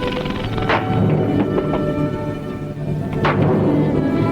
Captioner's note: stick pounding